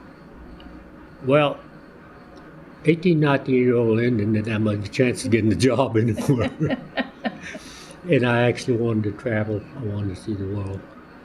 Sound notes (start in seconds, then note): 6.1 laughter